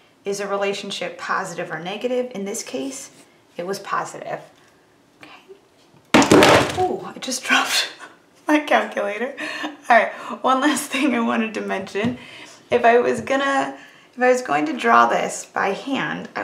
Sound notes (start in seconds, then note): 6.1 calculator thuds